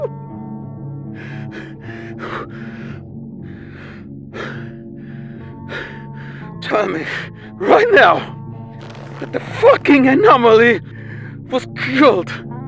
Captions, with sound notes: [Clive sobbing breath] Tell me, right now! That the fucking anomaly was killed!